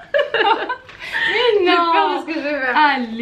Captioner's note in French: rires